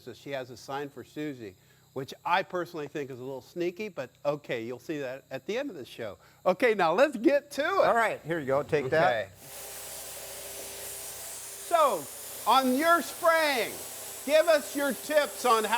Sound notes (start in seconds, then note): 9.3 spray hisses